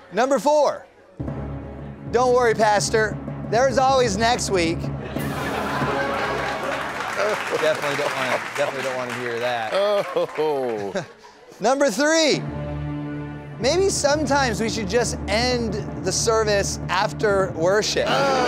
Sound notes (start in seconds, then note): 2.1 drum roll; 5.0 laughter; 13.7 drum roll